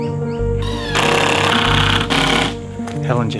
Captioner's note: drill